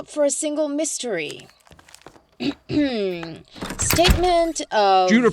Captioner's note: picks up paper and clears throat; doors burst open